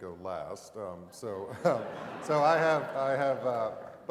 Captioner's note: laugh